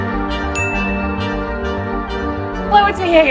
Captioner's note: audio dings